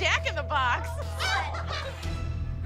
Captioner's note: laughter